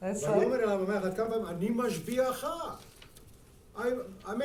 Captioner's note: speaking in foreign language